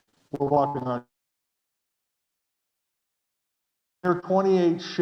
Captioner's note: audio goes off